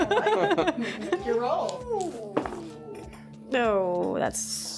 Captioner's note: laughing